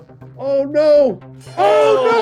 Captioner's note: bell ringing